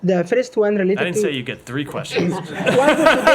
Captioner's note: laughter